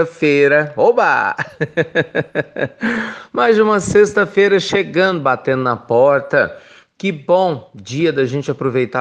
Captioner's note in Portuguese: risos